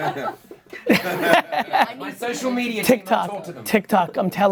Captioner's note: laughs